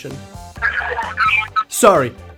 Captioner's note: talking on Earpiece